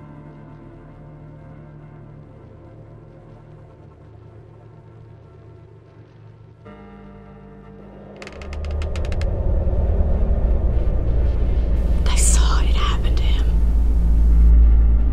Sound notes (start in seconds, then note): 8.1 door creaking; 9.1 machine humming